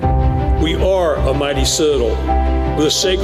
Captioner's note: none